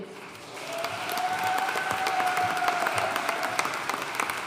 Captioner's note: audience cheering and applauding